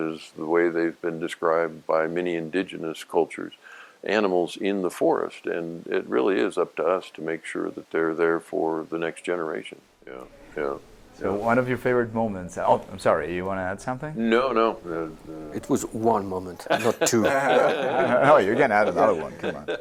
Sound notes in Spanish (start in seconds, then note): 16.6 Risas